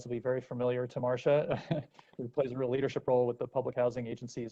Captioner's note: laughter